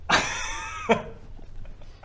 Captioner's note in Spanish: risas